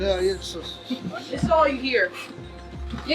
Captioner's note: mumbling